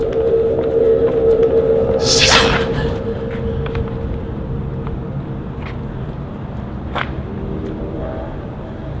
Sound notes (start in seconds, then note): 0.1 ominous music; 2.3 gasping